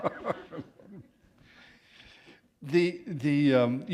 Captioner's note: chuckle